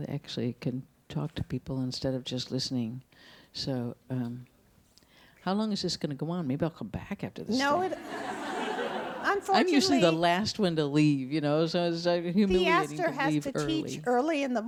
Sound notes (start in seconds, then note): 7.7 audience laughs